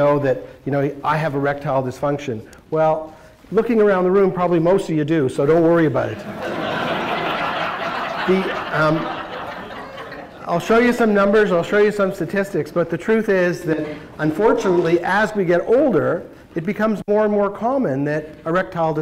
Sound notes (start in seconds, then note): 6.2 laughter